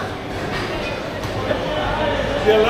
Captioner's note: crowd chattering